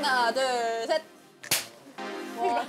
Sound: slate clap

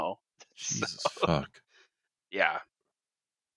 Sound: laughs

